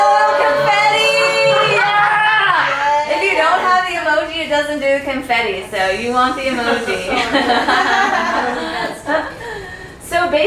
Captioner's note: cheers